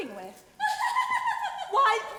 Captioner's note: Adele laughing